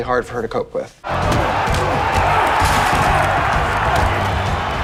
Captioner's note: fighters grunting; crowd clamoring